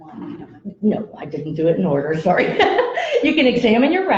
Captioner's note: laughs